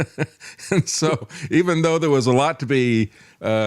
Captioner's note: laughing